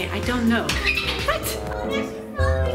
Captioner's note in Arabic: كلانكينغ بصوت عال